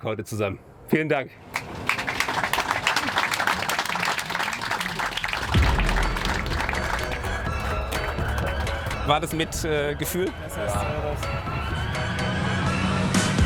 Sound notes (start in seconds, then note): 1.7 applause